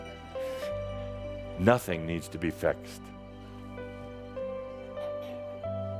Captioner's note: a few giggles